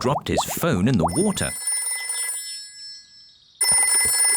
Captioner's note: phone ringing